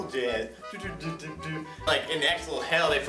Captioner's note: imitating cool jazz